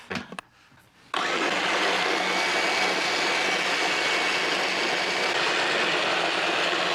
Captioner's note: whirring